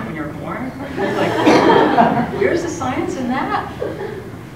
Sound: laugh

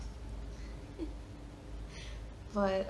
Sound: chuckles

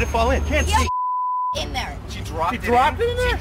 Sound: beep

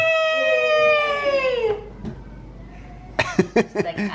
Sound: cheers

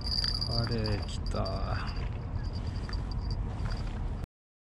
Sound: none

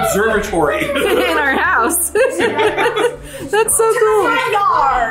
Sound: laughs

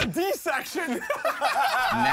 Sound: laughter

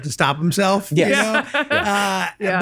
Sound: laughs

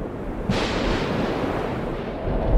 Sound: thunder

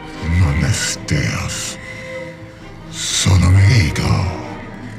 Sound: speaks in foreign language

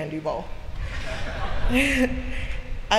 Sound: laughter

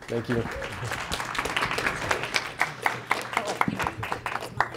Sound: applause

